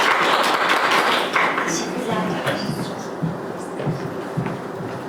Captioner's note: applause